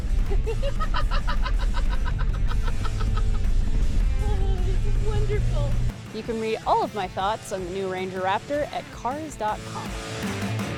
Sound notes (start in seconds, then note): 0.3 giggles